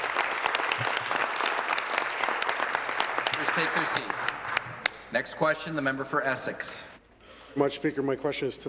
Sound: applause

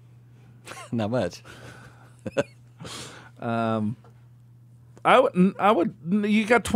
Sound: laughs

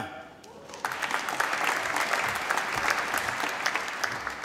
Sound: applause

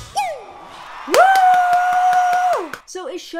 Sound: audience cheers and applauds

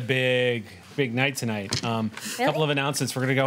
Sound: none

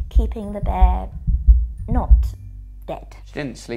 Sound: heart beating

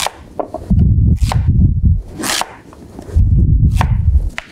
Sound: knife cutting

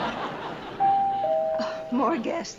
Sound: doorbell

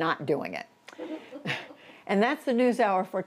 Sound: laughter

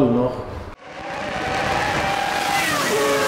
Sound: engine sound

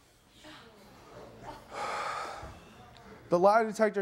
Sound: sighs

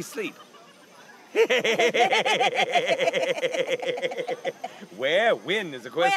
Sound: both laugh

